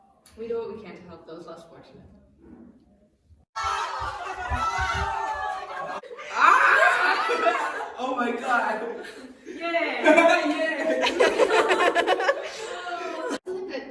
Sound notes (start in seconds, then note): 3.5 cheering; 8.5 laughter